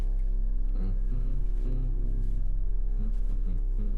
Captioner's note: humming